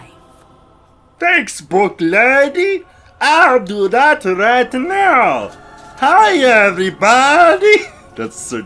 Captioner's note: laughs